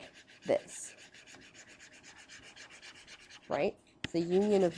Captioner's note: pen scribbling